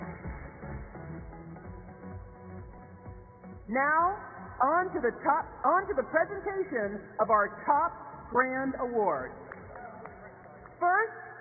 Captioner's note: applause